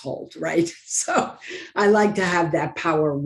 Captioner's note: laughs